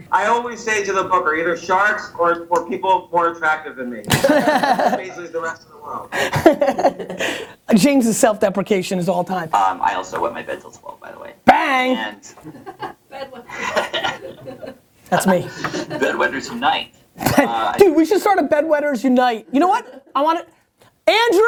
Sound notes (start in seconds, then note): 4.1 laughter